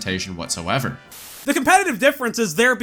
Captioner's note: static